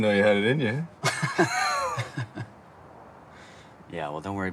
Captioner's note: both laughing